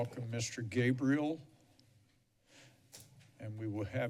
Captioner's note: pause